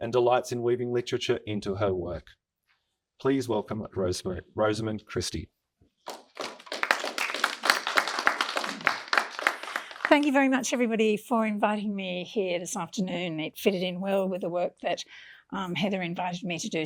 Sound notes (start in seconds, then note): 6.0 audience applauding